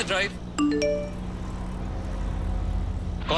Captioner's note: Message tone